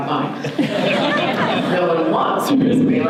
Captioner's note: audience laughter